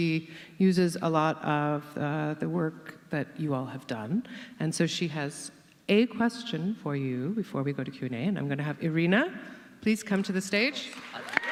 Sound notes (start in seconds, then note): 6.8 audience cheers and claps